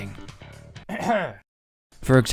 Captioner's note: ahem